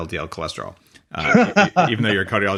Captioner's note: laughs